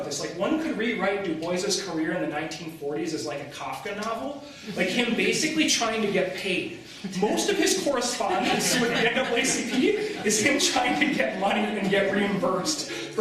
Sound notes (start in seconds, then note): 8.0 laughter